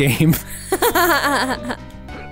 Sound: laughing

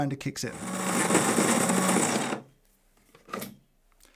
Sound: grinder whirring

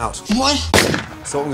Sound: gunshot

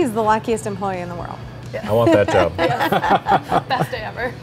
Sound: laughing

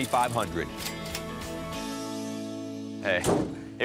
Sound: cash register dings

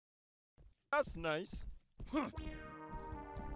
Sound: grunting

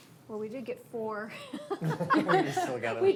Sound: laughs

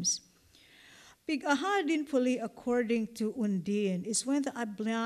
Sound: non-english

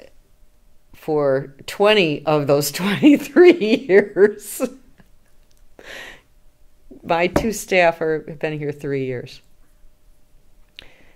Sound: laughs

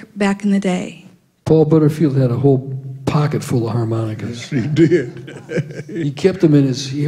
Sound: laughter

